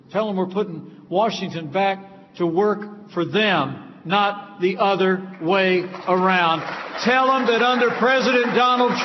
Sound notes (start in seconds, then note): 5.2 applause